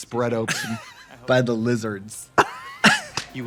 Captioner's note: laughing; both laugh